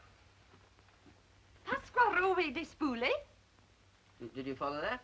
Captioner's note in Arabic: آنا تتحدث لغة أجنبية